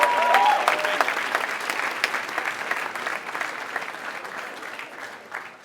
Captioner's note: applause